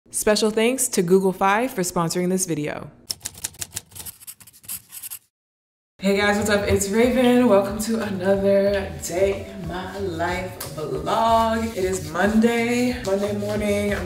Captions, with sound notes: - Special thanks to Google Fi for sponsoring this video. (keys clacking) (pencil scratching) Hey guys, what's up? It's Raven, welcome to another day in my life vlog. It is Monday, Monday morning.